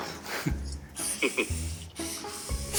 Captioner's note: chuckles